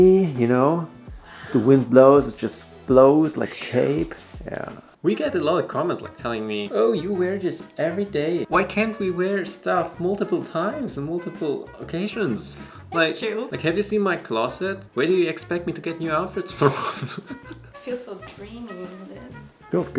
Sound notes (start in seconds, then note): 16.6 both chuckle